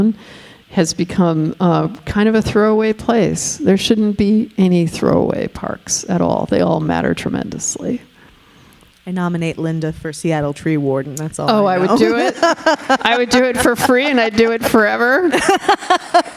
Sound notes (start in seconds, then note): 11.5 laughing